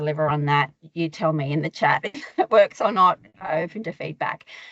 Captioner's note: chuckling